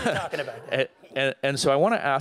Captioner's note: laughter